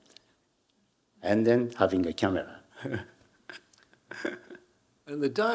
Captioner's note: Hiroshi chuckling